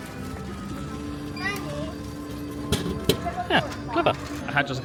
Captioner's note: sensor beeping